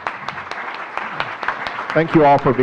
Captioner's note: audience clapping